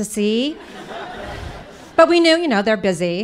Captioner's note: audience laughing